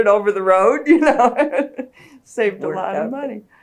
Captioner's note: laughter